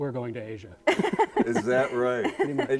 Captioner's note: both laughing